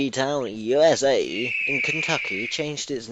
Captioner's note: eagle screech